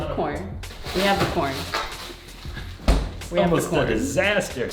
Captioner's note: packages rustling